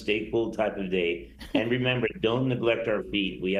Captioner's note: laughing